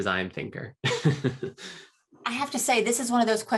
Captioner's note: laughs